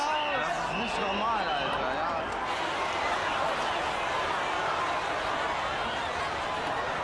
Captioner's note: overlapping shouting